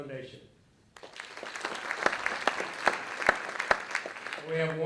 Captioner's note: audience clapping